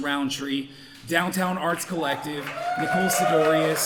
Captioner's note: audience cheering